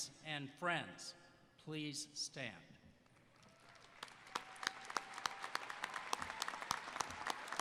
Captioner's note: applause